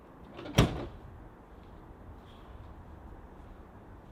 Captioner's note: car door slams